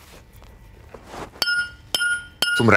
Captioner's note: bright sounds